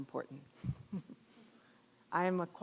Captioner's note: chuckling